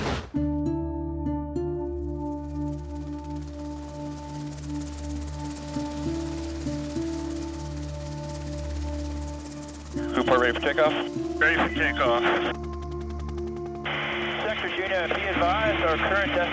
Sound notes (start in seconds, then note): 0.5 gentle music; 6.3 helicopter whirling